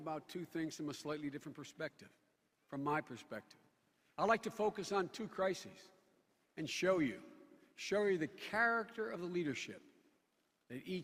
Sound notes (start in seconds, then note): none